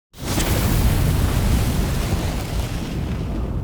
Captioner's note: fire roaring